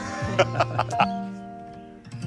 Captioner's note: laughs